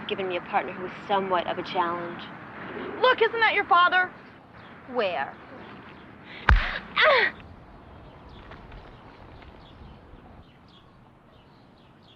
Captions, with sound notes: me a partner who was somewhat of a challenge. - Look, isn't that your father? - Where? (punch) - (cries out)